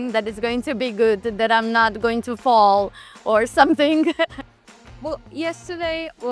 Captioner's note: laughs